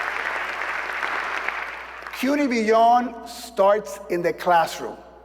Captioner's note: applause